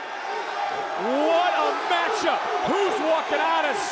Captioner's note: crowd chants